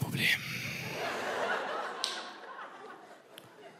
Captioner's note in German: Gelächter